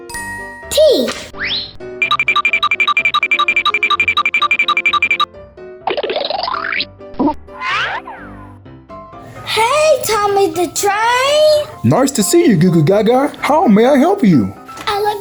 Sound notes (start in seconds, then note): 0.2 magical ting; 2.2 futuristic zinging; 5.8 cartoony blooping